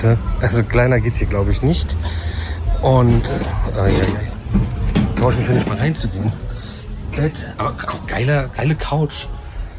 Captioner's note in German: räuspern